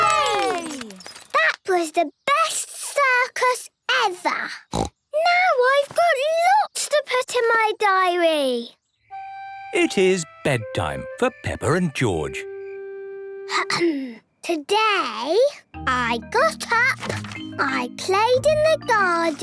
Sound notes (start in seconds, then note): 11.8 clears throat